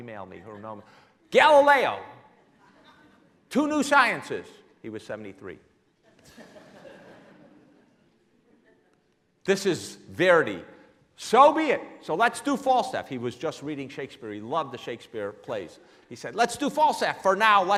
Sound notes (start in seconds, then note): 6.4 laughing